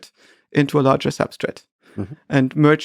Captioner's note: Lex lightly chuckles